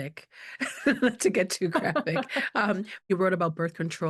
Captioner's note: laughing